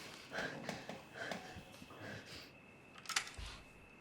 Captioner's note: Claire panting; gun clicks